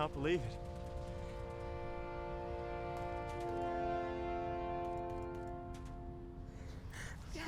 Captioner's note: somber music; shots firing